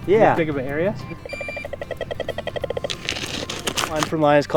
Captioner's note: metal detector beeping